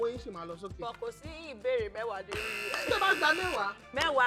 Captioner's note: buzzer pressed